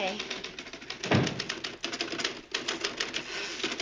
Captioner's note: typing vigorously